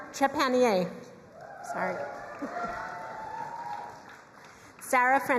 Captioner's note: crowd cheering and applauding